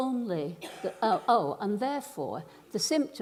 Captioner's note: coughs